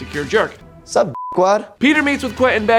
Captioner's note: beeps